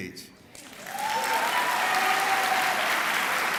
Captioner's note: clapping